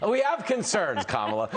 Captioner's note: laughter